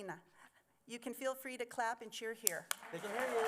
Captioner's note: applause